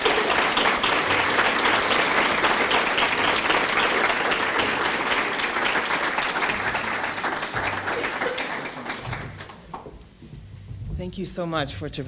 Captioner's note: applause